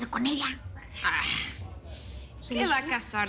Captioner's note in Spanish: Exclamaciones